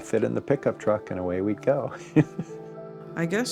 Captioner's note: chuckles